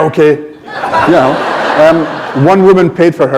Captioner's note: laughter